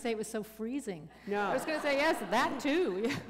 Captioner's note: laughter